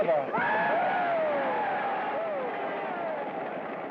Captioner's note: cheers and applause